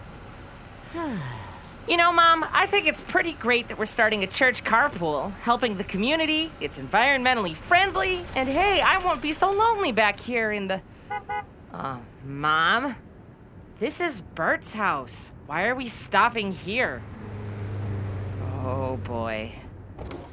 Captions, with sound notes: - (sighs) You know Mom, I think it's pretty great that we're starting a church carpool. Helping the community, it's environmentally friendly, and hey, I won't be so lonely back here in the, (car horn) Mom? This is Burt's house. Why are we stopping here? Oh boy.